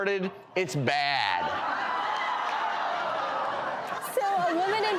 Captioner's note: audience laughs